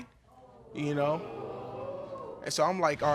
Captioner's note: audience gasping